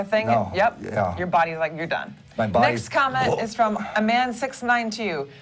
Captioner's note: swallows